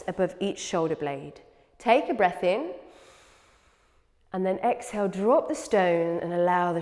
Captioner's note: inhales